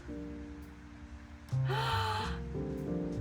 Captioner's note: gasp